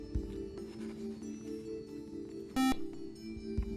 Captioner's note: beep